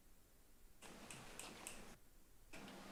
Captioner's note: snapping fingers